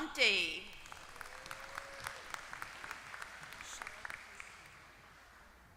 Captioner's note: applause